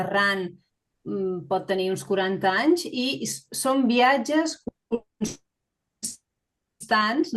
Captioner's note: continues speaking in Catalan